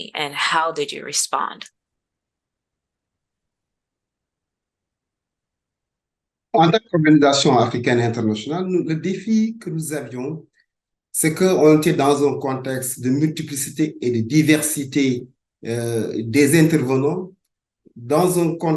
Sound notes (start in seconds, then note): 7.1 speaking in French